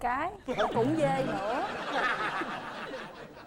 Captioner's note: laughing